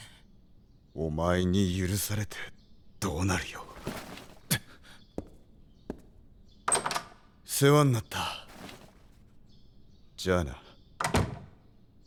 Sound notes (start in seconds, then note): 6.6 door opens; 11.0 door closes